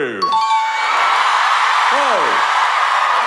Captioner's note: audience cheer